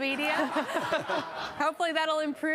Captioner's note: audience laughs